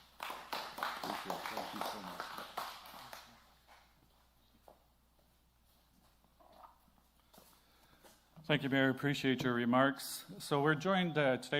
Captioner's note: applause